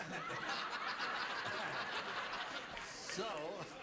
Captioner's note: laughs